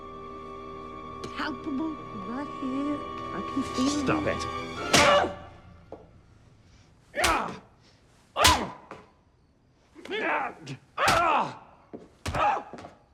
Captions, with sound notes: palpable right here. I can feel you. Stop it! (GRUNTING) (GRUNTING CONTINUES) (GRUNTING CONTINUES)